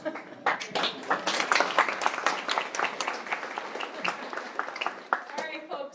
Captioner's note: applause